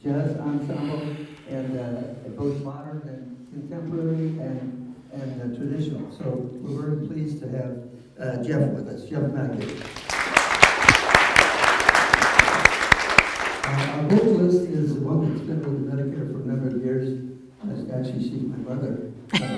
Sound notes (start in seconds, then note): 9.6 audience applause